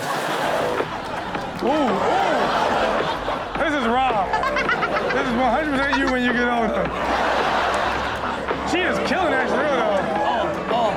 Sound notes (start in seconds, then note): 0.1 audience laughing; 2.8 audience laughing; 4.1 Chanel laughing; 7.0 audience laughing